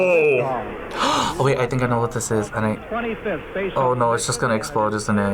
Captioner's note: gasps